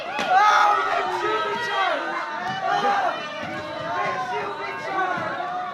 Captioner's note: commotion continues!